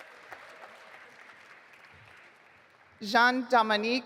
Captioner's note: audience applauding